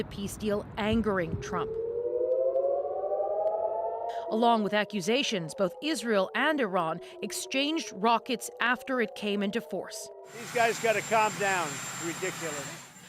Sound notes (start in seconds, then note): 3.7 sirens